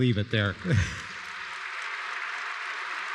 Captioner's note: audience applause